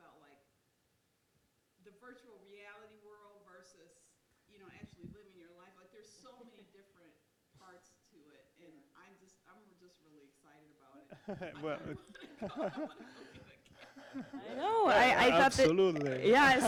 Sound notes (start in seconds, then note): 11.1 all chuckle